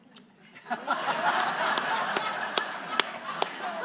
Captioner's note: audience laughing